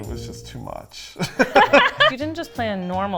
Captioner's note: laughing